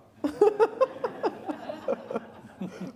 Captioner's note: laughter